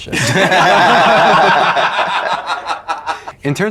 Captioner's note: laughing